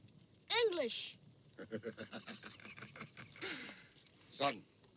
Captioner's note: auda laughs